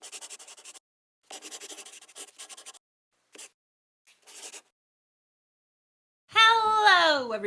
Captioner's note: the sound of a pen scratching. LOGO